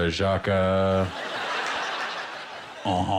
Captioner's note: laughter